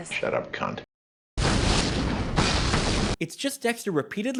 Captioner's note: explosion